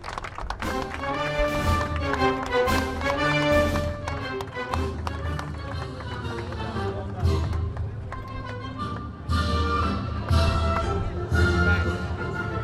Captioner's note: applause